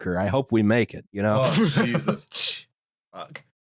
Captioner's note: laughs